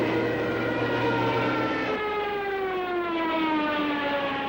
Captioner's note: engine whirling